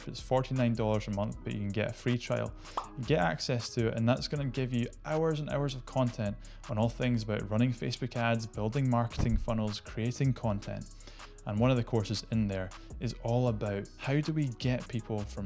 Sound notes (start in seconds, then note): 2.7 word popping; 9.1 graphic thumps